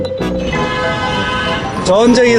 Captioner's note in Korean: 자동차 경적소리